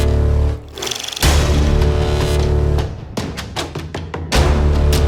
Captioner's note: reel spinning; dramatic theme music